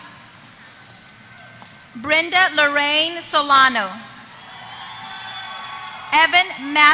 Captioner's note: applause